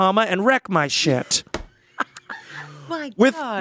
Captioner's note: laughing